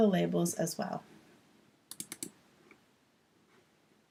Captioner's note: click